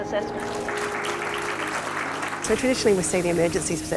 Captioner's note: audience applauds